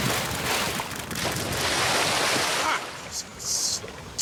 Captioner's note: water splashing